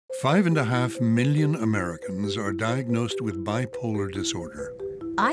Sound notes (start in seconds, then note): 0.1 gentle music; 0.4 voiceover